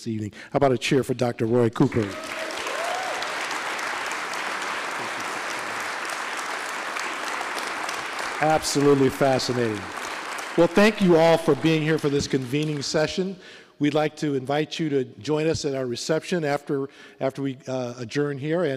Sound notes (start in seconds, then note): 5.4 applause